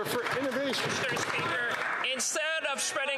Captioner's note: some Applause